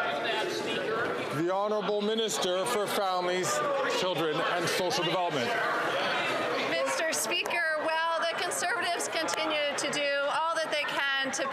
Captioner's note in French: voix de l'interprète